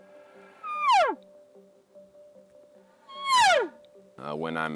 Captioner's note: elk call bugling